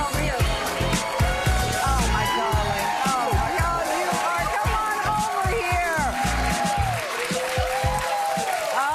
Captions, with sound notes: Please, welcome Emmy Award-winning journalist, Sara Sidner! -[upbeat music playing] -[audience cheering]